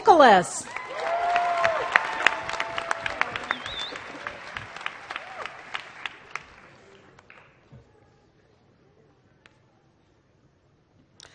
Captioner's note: applause